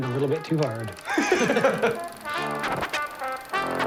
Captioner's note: all laugh